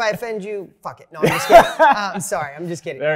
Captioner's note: laughing